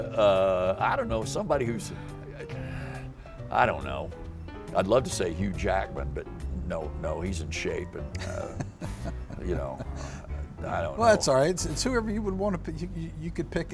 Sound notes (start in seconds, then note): 8.1 chuckles